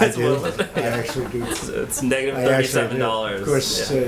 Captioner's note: laughter